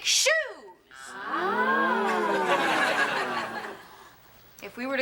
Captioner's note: all gasp